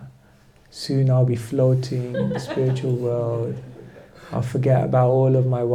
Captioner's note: laughter